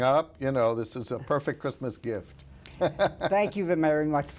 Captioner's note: laughs